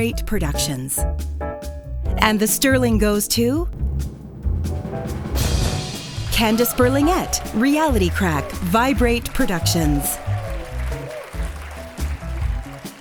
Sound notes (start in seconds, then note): 4.1 drumroll; 6.4 applause